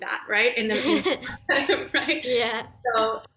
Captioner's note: laughs